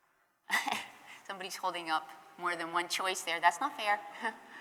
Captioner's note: laughter